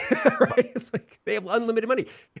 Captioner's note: laughs